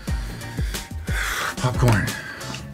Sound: exhaling

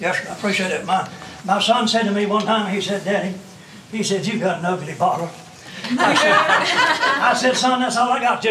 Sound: laughter

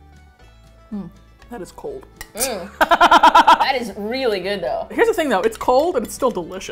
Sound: laughs

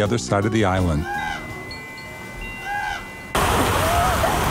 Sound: bell tinkling; crow squawking; water swooshing

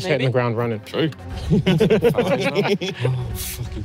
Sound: laughs

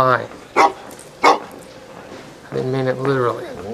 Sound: barking

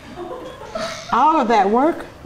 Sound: laughing off camera

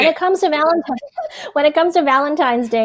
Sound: chuckles

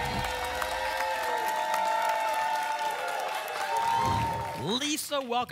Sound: applause and cheering; whoosh

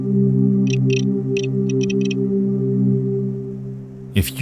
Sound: computer dinging; keyboard keys clicking

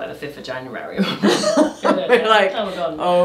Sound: laughing

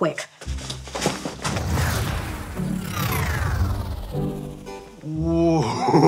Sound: light music; electricity whirring

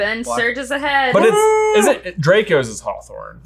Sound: cheers

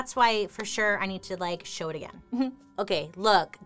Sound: giggles

